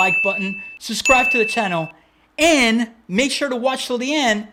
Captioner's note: beep